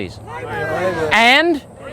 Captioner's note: crowd